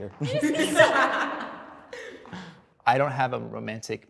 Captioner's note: all laughing